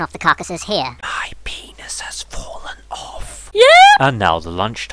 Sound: whispering

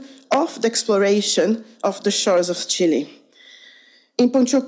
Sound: none

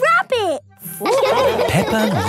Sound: all laughing

